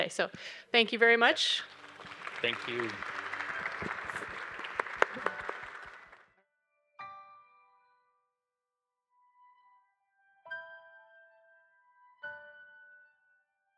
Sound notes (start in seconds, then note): 3.6 audience applauding; 6.4 bright music